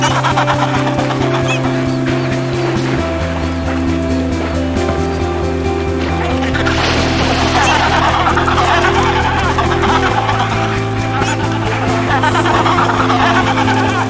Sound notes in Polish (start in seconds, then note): 1.9 szum morza; 7.5 terkotanie pingwinów